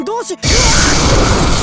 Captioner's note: panicked cry